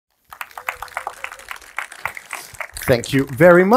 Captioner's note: audience applauds